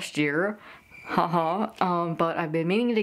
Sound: crickets chirping

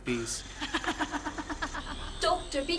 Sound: more disembodied laughter

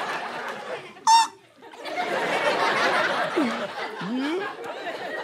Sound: squeak

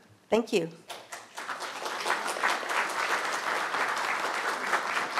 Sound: audience applauds

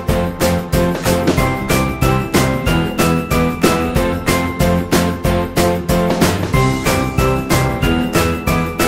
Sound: dong

